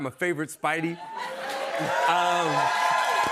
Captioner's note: cheers and applause